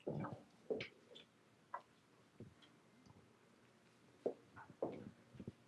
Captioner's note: shuffling and footsteps